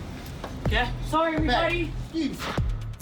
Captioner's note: indistinct chatter